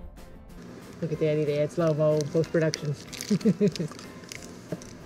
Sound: laughing

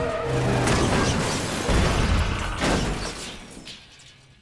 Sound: thudding

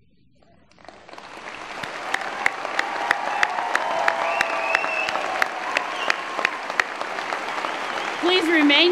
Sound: applause

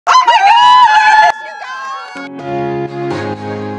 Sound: group cheering; uplifting music

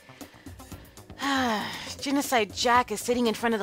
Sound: heavy sigh

